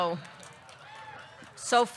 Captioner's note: audience clapping; audience cheering